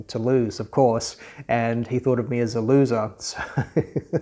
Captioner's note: laughing